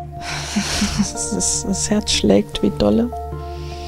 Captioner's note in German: ausatmend